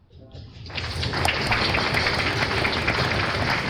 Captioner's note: applause